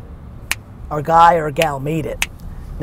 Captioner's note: finger snaps